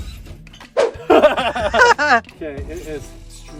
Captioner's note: both laughing